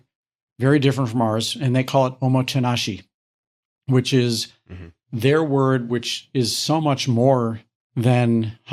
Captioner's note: foreign language